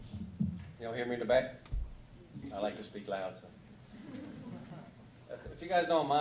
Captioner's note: laughter